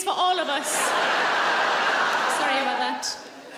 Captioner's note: laughing